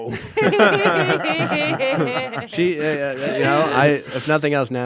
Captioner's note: everyone laughing